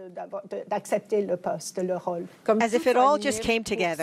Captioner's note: French